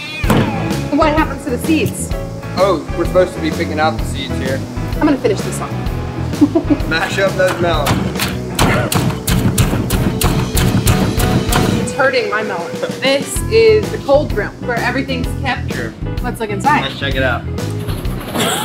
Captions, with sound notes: The dirty part? What happens to the seeds? Oh, we're suppose to be picking out the seeds here. I'm going to finish this off. (laughing) Mash up those melons! (smashing) It's hurting my melons. This is the cold room where everything is kept? Let's look inside. Let's check it out!